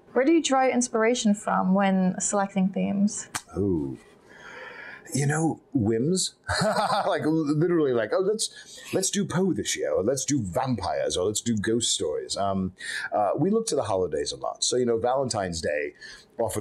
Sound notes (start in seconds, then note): 6.4 laughing